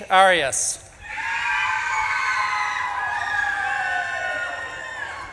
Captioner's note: audience claps and cheers